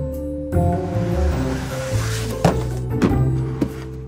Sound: mischievous music; box sliding

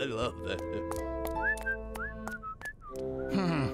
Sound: guard whistling

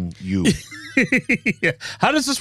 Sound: laughing

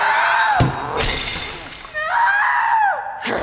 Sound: glass breaks

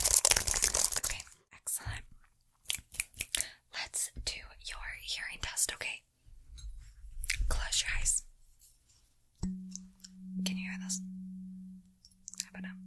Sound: mouth Sounds

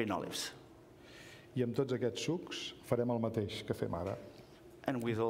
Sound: speaking catalan

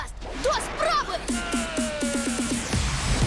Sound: yells

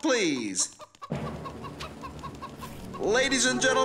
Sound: clucking

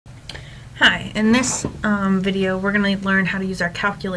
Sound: voiceover

